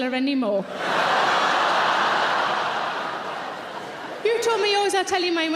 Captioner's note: audience cheering